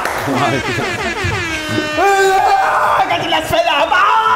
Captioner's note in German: Aufgeregte Rufe, Tröten